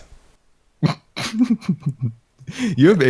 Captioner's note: giggle of mischief